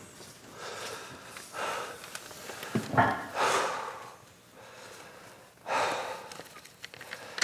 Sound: breathing heavily

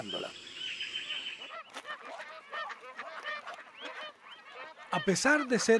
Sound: birds chirps and calls

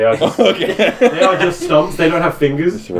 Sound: laughing

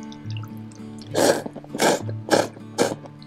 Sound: slurps

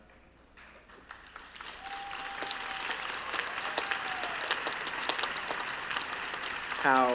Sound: cheers and applause

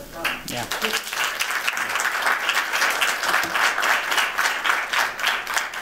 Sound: applause

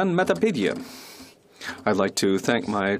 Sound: speaking French

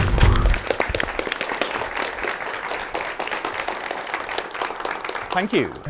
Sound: applause

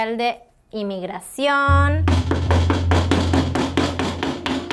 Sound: loud knocking

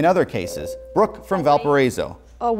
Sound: buzzer

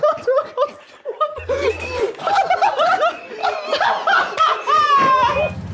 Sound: Sidemen laughing

